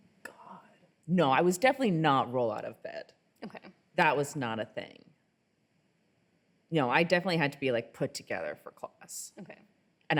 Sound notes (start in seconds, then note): none